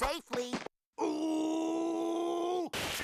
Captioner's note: grunting